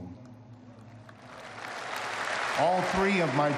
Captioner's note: applause